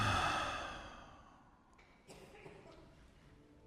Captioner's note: sighing